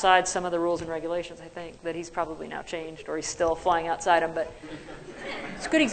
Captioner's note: laughter